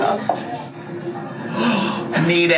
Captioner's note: gasps